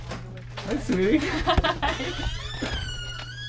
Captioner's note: laughs